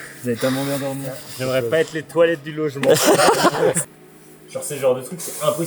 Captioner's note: laughs